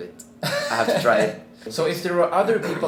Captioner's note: laughs